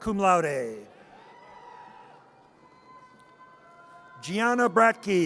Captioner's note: audience cheers